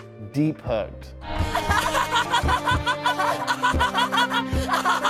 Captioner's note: both laughing